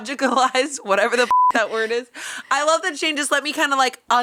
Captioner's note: beep